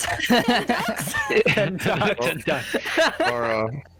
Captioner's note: all laughter